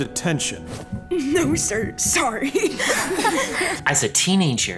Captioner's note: snickering; students chuckle